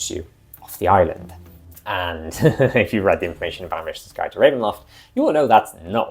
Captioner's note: chuckles